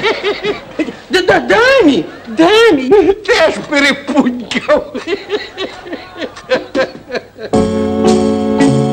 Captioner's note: laughter